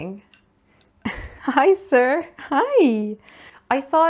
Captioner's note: giggles some more